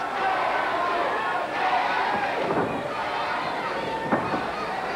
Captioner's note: crowd chanting